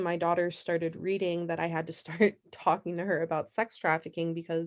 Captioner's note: laughter